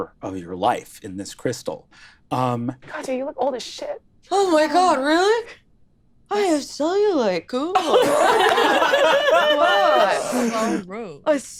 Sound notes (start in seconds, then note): 7.8 laughing